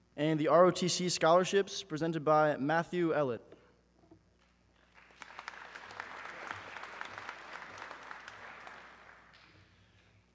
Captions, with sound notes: - And the ROTC scholarships presented by Matthew Ellott. (audience clapping)